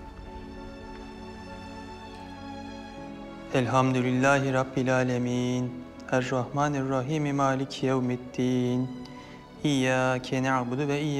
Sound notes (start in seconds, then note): 3.4 arabic prayer